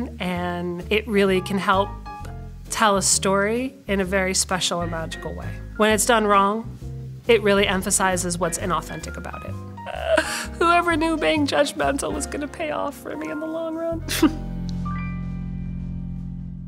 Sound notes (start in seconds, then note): 10.0 laughs; 14.1 chuckles